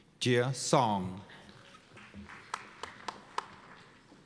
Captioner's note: applause